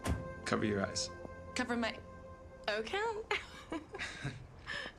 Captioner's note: chuckling